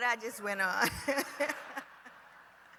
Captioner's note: laughter